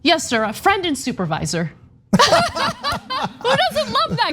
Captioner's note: laugh